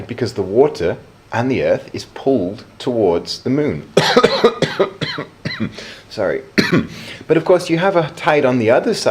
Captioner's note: cough